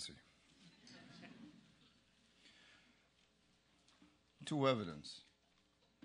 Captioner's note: laugh